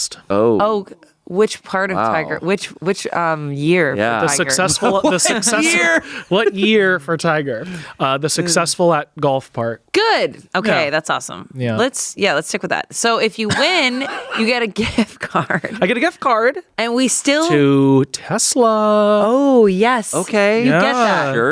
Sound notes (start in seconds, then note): 4.3 laughs